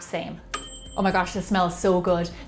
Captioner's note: ding!